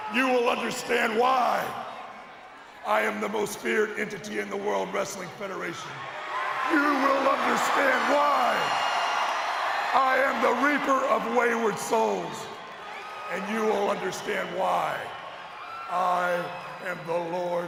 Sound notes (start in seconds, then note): 6.3 audience cheers